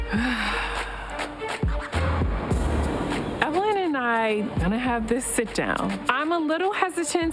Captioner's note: exhales